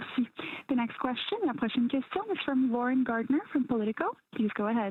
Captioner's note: speaking French